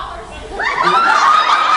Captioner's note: laughs